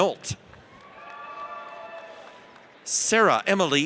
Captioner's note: audience cheers